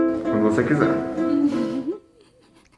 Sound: laughing

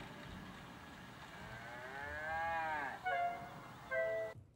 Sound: cow Mooing

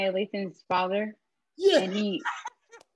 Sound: laugh

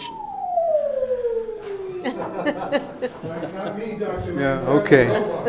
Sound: robot howling

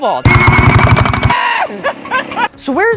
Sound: maniacal uncle laughter

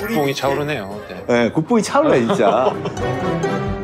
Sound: laughter; exciting music

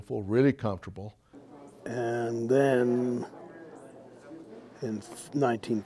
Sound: murmuring

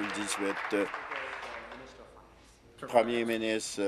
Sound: applause

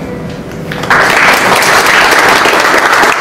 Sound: clapping

